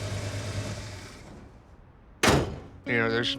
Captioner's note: engine shuts down